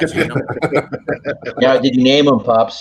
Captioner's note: all laugh